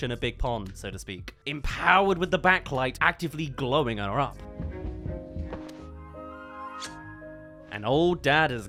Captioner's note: Old Dad kiss